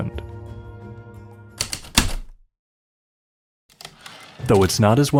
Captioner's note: heavy typewriter keystrokes then return slide